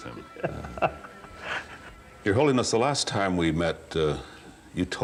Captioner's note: chuckles